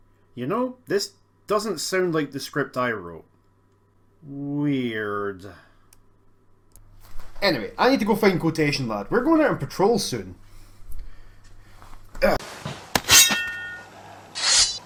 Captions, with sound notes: You know this doesn't sound like the script I wrote... weird...Anyway I need to go find Quotation Lad. We're going on patrol soon. [Sword SFX]